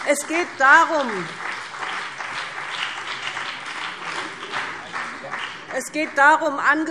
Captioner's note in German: Beifall BÜNDNIS 90/DIE GRÜNEN und CDU